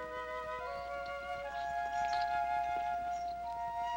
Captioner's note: birds chirping